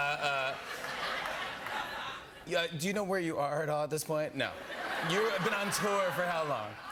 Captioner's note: laughter